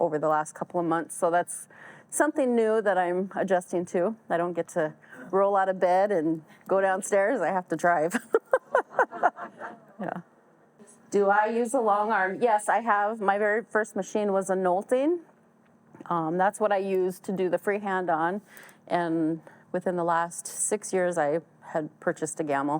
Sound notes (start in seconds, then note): 8.2 all laugh